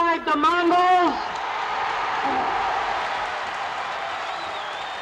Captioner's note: audience cheers